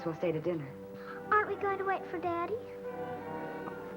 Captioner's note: gasps